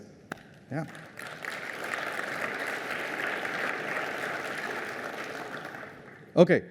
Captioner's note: applause